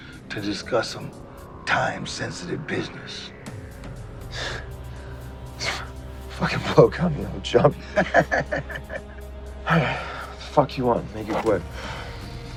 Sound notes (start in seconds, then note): 7.6 laughter